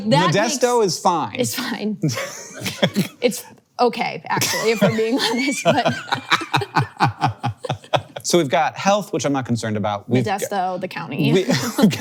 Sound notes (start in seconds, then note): 2.1 laughs; 6.1 both laughs